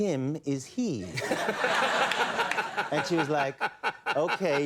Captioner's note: audience laughing; Conan laughing